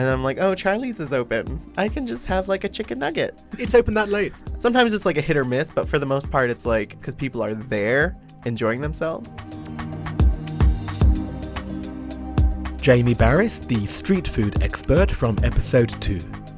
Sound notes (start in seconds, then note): 9.8 voiceover